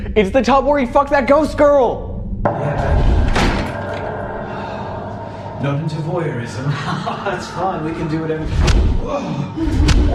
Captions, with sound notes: It's the tub where he fucked that ghost girl. - Not into voyeurism? (laughs) That's fine, we can do whatever...